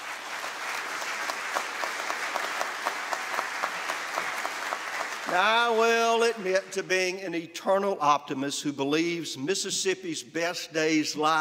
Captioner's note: applause